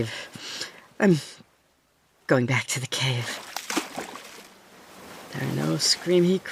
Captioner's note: splash, swimming sounds